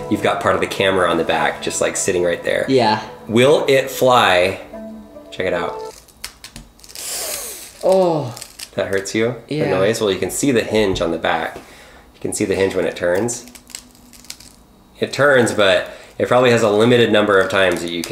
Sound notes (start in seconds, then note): 5.9 crunching sounds; 6.8 sucking through teeth; 12.8 crunching sounds